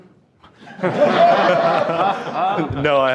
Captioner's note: attendees laughing